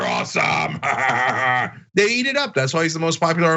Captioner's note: laugh